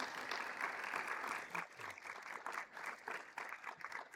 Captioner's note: everyone applauding